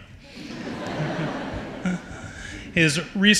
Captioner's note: audience laughs